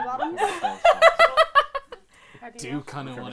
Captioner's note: laughter